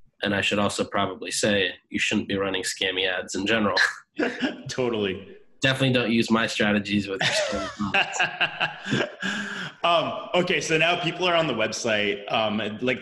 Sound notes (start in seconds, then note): 4.1 laughs; 7.2 both laugh